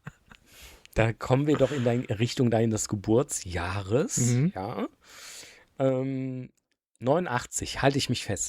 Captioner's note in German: schnauben